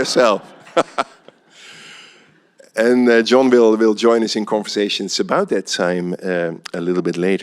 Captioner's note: laughs